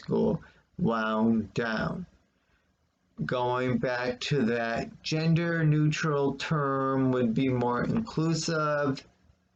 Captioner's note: click of trackpad